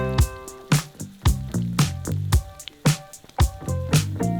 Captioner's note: eggs sizzling